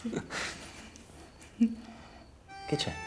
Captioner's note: Nanà giggling; romantic music playing